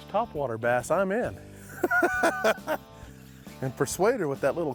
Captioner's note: laughs